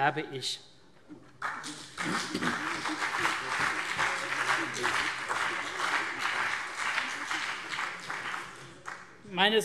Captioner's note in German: Beifall CDU und BÜNDNIS 90/DIE GRÜNEN